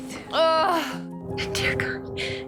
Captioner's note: Serena breathes in pain